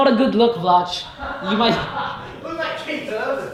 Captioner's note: laughs